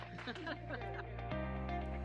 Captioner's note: laughter